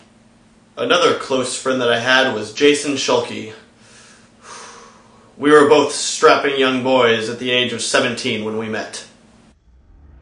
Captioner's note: sigh